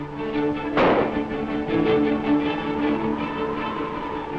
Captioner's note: gunshots